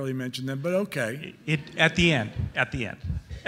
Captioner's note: audience laughing